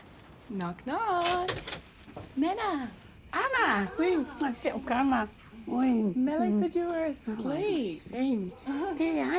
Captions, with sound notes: - Knock-knock. Nana. - Ana! (SPEAKS SAMOAN) - Mele said you were asleep. - Leai.